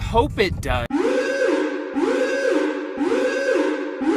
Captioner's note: sirens wailing